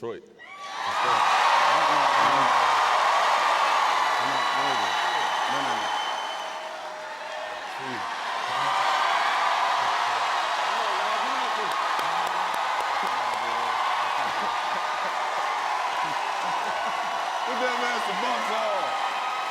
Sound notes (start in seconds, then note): 0.1 cheers and applause; 8.6 cheers and applause; 11.7 cheers and applause continue; 19.3 laughs